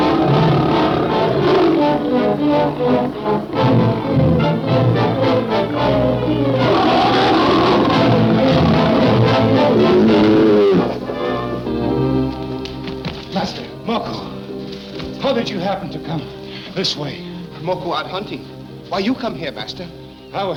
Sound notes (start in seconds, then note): 3.8 suspenseful music; 6.8 lion roaring